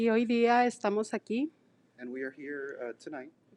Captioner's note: speaking in foreign language